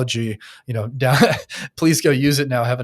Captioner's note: chuckles